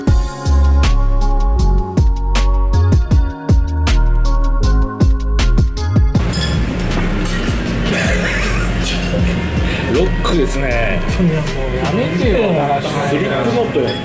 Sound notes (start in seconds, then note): 7.0 sound of chopsticks being dropped